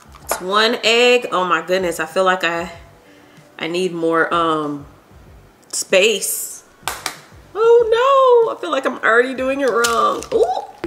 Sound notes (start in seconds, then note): 6.8 egg tapping